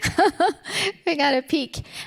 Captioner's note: laughs